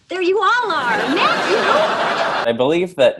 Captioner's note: audience laughs